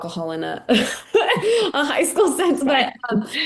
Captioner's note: laughing